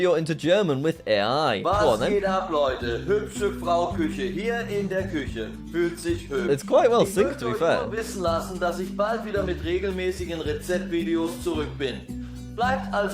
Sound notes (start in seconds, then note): 2.2 AI speaking in German; 7.9 AI speaking in German